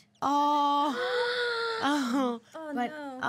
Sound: girl gasping

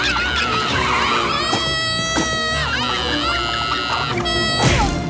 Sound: screaming

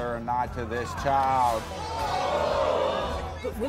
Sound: audience gasps

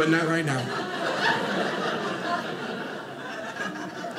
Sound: audience laughing

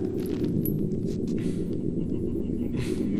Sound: laughter

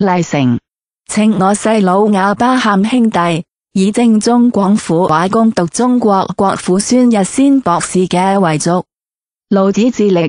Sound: ภาษา กวางตุ้ง; Cantonese

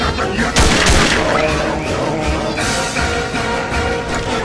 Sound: Burning Woomy noises

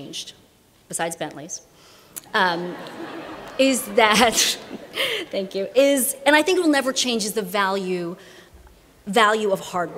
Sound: laughter

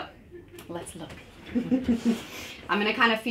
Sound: chuckles

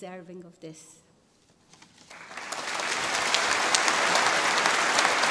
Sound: audience applauding

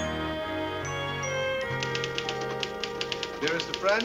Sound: typing

